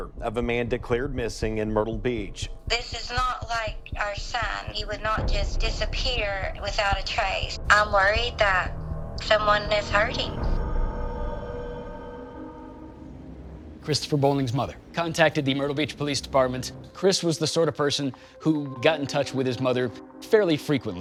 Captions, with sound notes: of a man declared missing in Myrtle Beach. - This is not like our son. He would not just disappear without a trace. I'm worried that someone has hurt him. (waves crashing) (gentle music) - Kristofer Bowling's mother contacted the Myrtle Beach Police Department. Kris was the sort of person who got in touch with his mother fairly frequently,